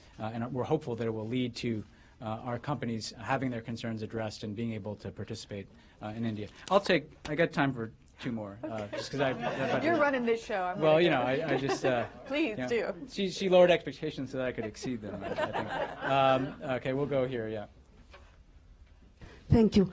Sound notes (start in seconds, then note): 9.7 laughter; 16.5 laughter